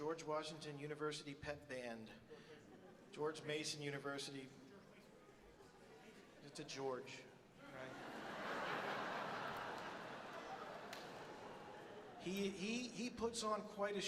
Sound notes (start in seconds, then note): 7.7 audience laughs